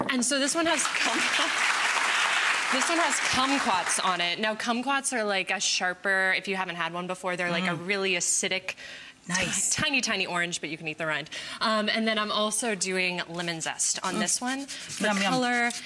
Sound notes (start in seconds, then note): 0.6 audience clapping